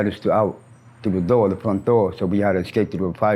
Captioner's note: brakes squeal